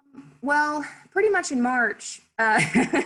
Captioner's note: laughs